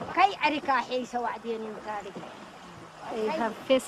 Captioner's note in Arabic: تتحدث بلغة أجنبية